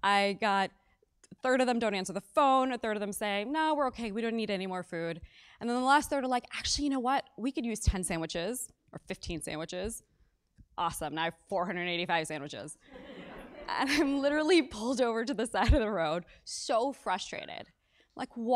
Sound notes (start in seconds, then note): 13.0 laugh